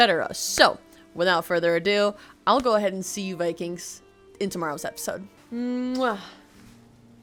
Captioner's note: kiss